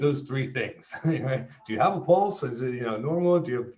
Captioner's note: chuckles